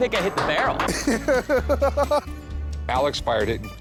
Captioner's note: laughing